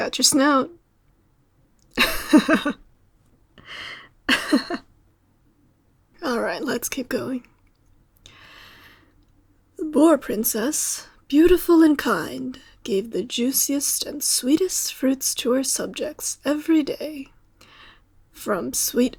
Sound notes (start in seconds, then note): 2.0 laugh